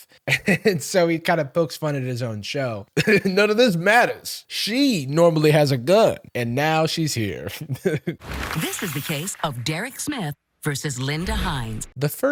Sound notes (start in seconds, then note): 0.3 laughs; 3.0 chuckles; 7.5 chuckles